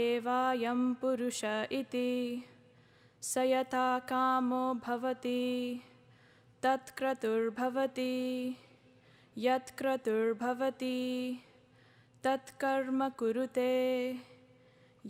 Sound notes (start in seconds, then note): 1.2 chanting in native language